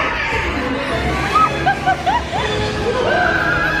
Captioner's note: tense chaotic music; shrieks and laughs; clothes whooshing